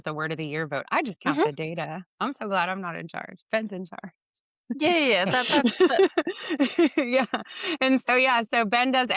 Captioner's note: laughs